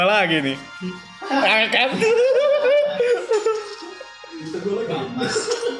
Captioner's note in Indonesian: giggles